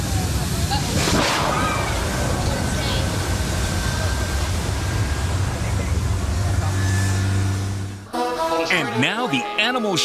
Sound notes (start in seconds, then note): 1.0 shark roaring; 8.2 upbeat music